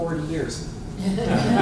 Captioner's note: laughter